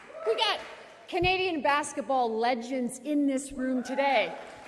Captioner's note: applause